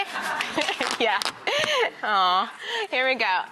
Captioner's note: laughing